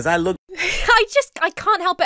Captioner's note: laughs